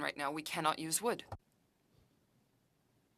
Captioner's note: speaking french